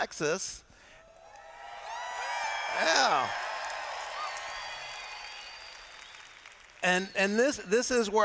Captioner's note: cheers